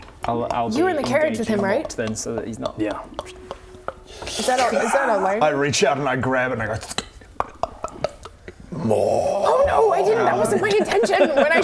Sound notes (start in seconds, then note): 7.3 glug glug glug